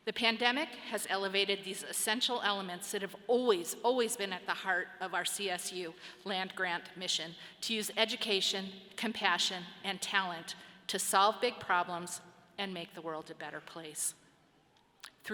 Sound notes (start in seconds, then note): none